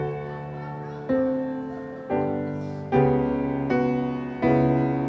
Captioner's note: audience shouting encouragement